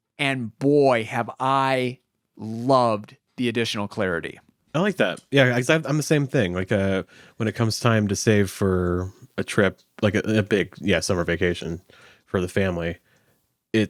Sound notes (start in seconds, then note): none